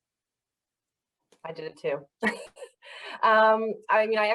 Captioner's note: laughs